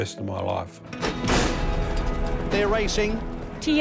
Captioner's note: starting gates clang